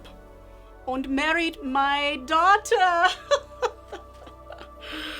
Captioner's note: laughs